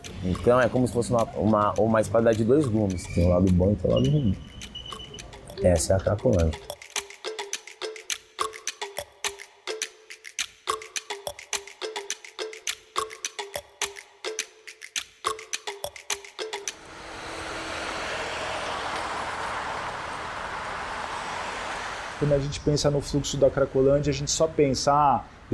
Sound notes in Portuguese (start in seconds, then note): 6.6 Melodia animada; 17.0 som ambiente de cidade